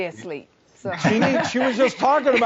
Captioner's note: everyone laughing